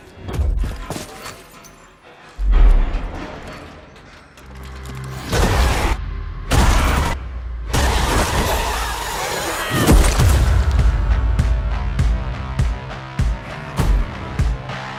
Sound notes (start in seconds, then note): 5.2 creature shrieks; 11.6 suspenseful music playing